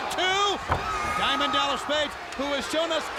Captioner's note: body thudding